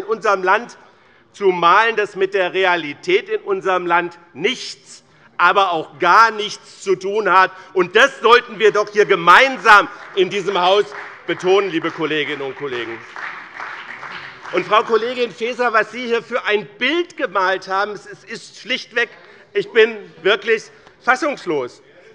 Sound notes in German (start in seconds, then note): 12.8 Beifall bei Abgeordneten des BÜNDNISSES 90/DIE GRÜNEN und der CDU